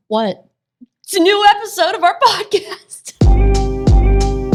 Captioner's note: lively music; laughs